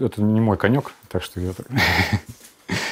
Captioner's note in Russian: усмехается